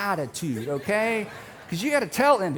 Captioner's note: audience laughing